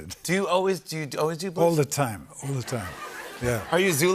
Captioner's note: laughter